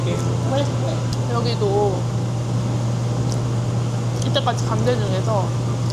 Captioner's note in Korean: 냠냠